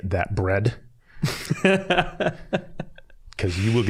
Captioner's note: laughing